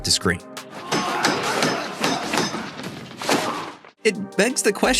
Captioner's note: grunting, sounds of combat